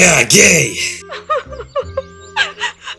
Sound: mother starts crying

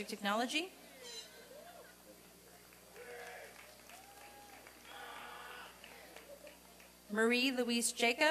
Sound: applause and cheering

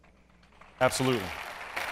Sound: applause

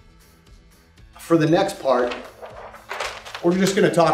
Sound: paper rattling

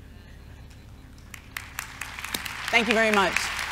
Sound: audience laughs and applauds

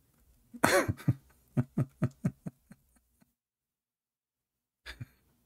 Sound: Ketawa

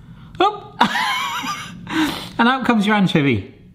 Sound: laughing

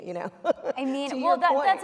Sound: laughs

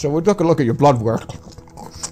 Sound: crunchimunch

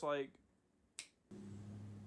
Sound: thanos snap

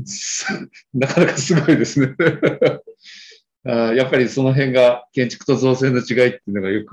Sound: laughs

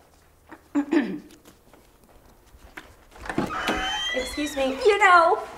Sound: Samantha clears throat

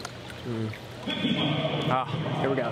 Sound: intercom

